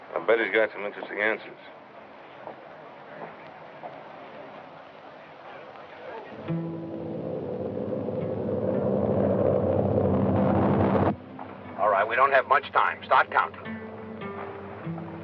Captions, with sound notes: I bet he's got some interesting answers. [melancholic guitar music] [plane rumbling] All right. We don't have much time. Start counting.